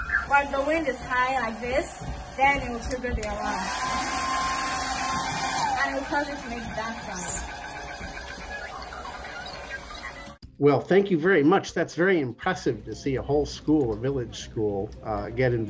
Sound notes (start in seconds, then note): 3.5 blow dryer; 9.5 alarm